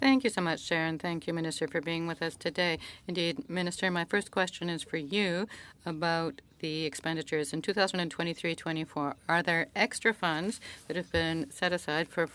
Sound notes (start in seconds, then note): 5.4 speaking French